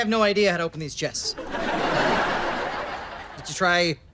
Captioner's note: audience laughter